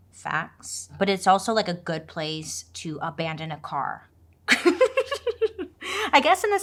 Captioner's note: laughs